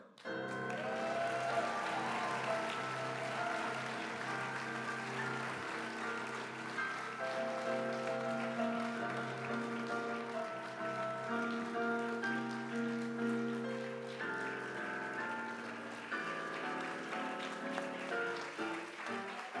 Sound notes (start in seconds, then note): 1.2 applause